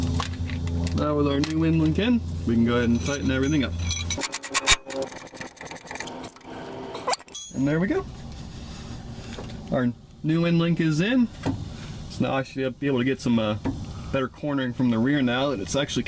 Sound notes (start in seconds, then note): 4.6 tool Sounds